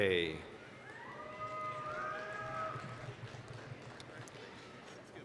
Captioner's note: applause, cheering